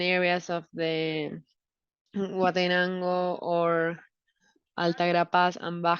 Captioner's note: speaking in foreign language